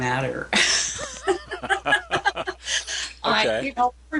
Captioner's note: laughing